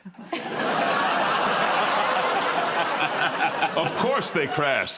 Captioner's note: laughter